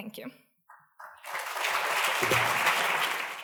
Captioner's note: applause